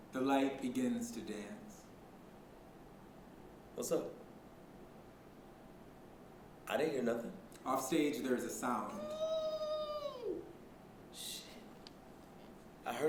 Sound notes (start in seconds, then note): 9.0 distant squeal